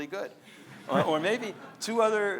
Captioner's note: audience laughs